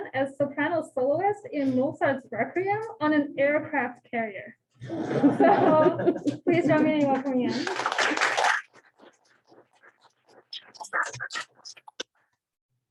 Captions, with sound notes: as soprano soloist in Mozart's "Requiem" on an aircraft carrier. [LAUGHTER] So please join me in welcoming Anne. [APPLAUSE]